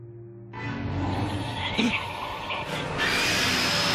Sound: gasping; growling; shrieking

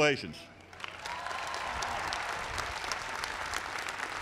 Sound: applause

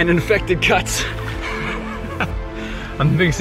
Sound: laughing

